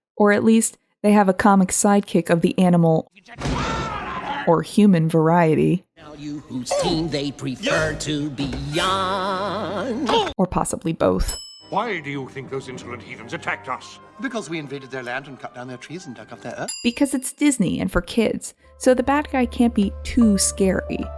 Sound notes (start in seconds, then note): 6.5 singing; 11.2 ding sound; 16.7 ding sound